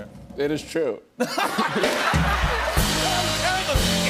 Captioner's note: laughter